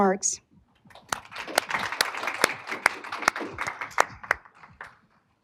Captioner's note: applause